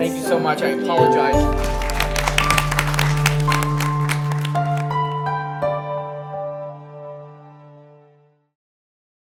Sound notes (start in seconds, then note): 1.3 applause